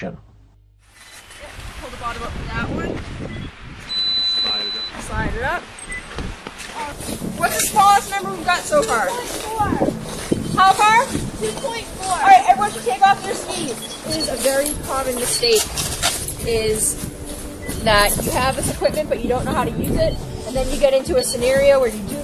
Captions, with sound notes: back outside for some field instruction. Yep, pull the bottom up on that one. [beeping] Slide it up. Slide it up. Ouch. What's the smallest number we got so far? 2.4. How far? 2.4. All right, everyone, take off your skis. It is a very common mistake is that you have this equipment,